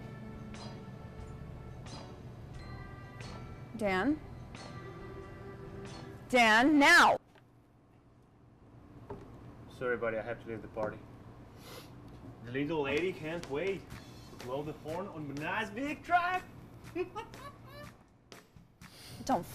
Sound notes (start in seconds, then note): 16.9 laughing; 18.5 sighing